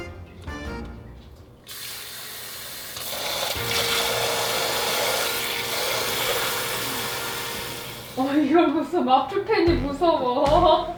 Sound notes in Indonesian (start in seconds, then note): 2.9 suara air